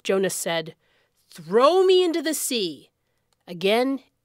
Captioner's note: none